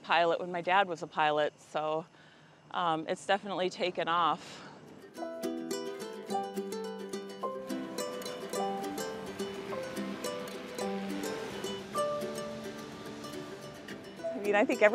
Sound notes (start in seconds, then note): 4.9 soft music; 7.7 burner whirring; 11.7 soft music